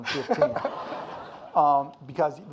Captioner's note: audience laughing